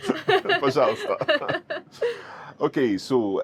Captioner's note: both laughing; speaking Russian